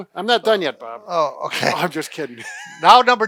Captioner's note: laughs